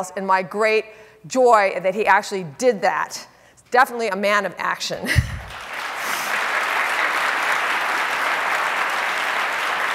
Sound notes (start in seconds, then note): 5.4 audience applauding